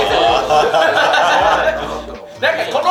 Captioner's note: laughs